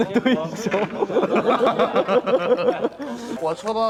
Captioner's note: rich people's laughter